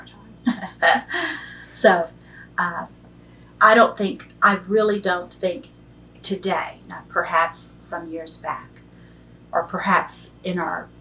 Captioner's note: laughs